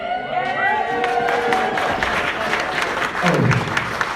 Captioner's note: cheering and Applause